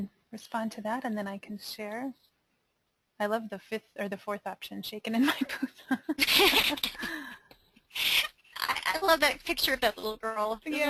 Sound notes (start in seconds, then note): 6.0 laughing